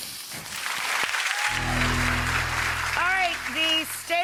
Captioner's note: audience applauding